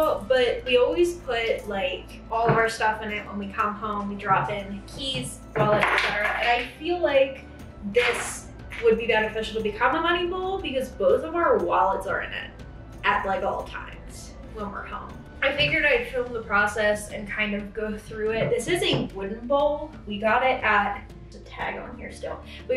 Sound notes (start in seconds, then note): 5.4 object thuds